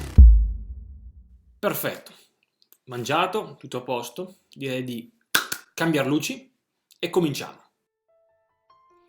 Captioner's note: clap clap